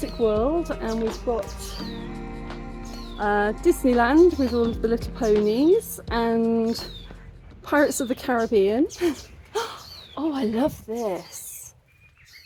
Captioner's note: gasp